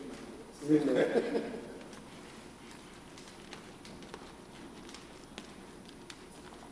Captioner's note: laughs